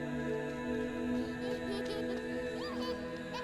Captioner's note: giggling